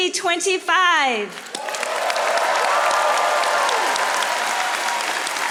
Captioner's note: audience applauding